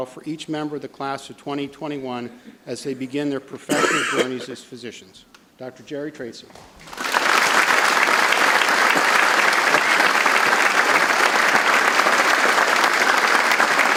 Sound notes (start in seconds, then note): 6.8 audience applauds